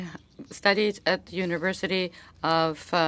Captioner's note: speaking French